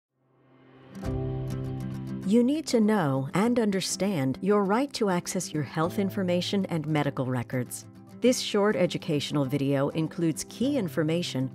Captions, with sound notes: (gentle instrumental music) - [Voiceover] You need to know and understand your right to access your health information and medical records. This short educational video includes key information